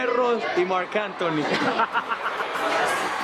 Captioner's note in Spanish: risas